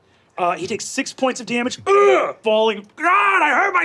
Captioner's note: grunts